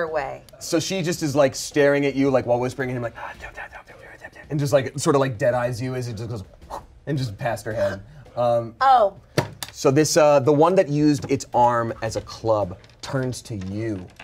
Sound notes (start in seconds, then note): 3.7 whispers; 6.6 blows air